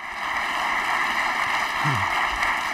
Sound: clapping

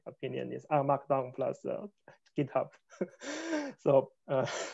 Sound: laughs

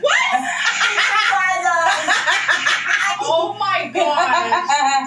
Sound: Amberlynn's mom laughs

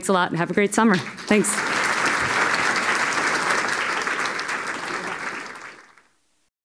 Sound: applause

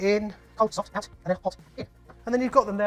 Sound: sped up talking

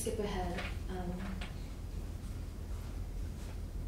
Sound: paper flips

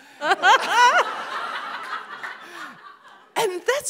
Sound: all laughing

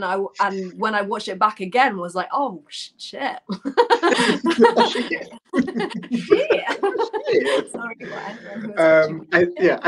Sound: laughter

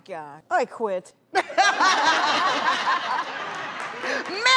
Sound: laughter

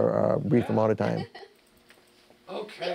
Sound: laughter

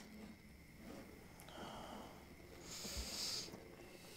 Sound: scraping

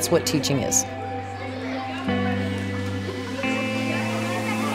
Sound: kids Talking

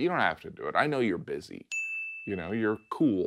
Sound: bell dings

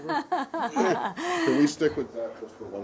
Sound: laughter

